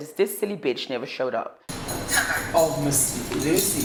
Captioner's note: speaking on the phone